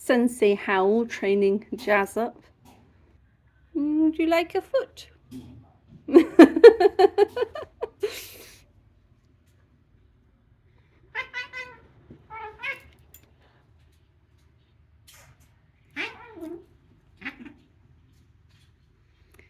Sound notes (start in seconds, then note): 6.1 laughing; 11.1 cats yowling